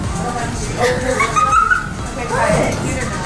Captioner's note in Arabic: يضحك